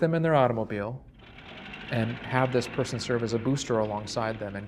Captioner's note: engine revs